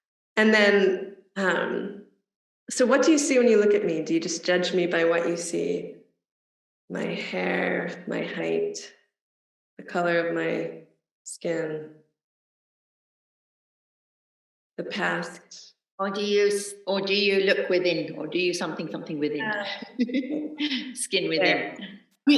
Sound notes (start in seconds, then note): 19.4 laughs